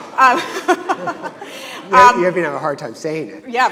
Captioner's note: audience laughing; laughing